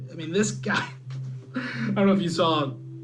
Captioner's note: laughs